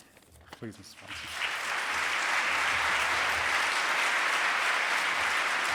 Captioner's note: audience applauding